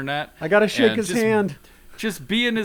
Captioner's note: laughs